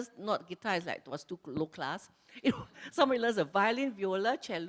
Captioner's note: laughs